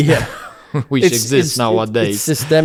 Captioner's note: laughs